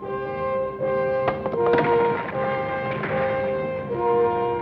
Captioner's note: rock clacks